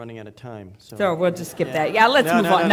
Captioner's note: audience laughing